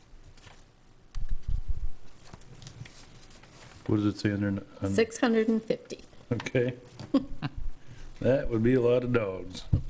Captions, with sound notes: What does it say on there now? 650. Okay. (Chuckles) That would be a lot of dogs.